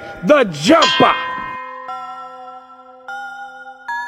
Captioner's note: ding; tense music